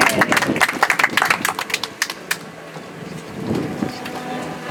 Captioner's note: audience applauds